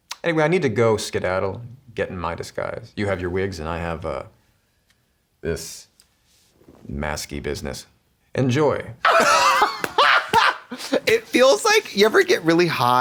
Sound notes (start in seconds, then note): 9.0 blonde Women cachinnate